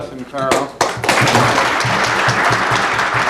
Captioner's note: applause